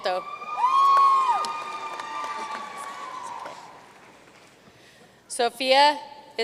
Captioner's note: audience cheering and applauding